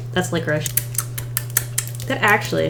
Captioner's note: smacks lips